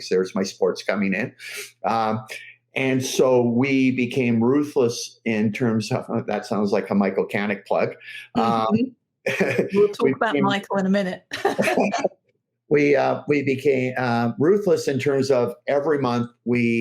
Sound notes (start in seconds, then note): 11.3 laughs